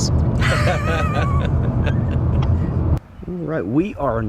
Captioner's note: laughing